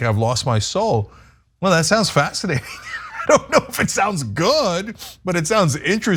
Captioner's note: laugh